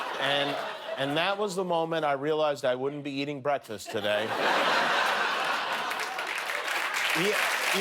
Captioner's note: laughter